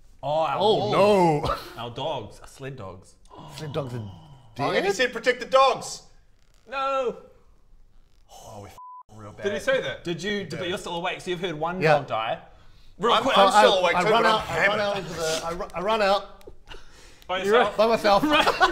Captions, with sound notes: - Oooh our wolves - Oh no! our dogs our sled dogs - *GASP* - Sled dogs are - Oh and he said protect the dogs! - dead? Noooo! Oooo we f***ed up real bad Did he say that? Did you...but you're still awake so you've heard one dog die - I'm still awake too but I'm hammered - I run out, I run out into the, I run out - You run? - By yourself? By myself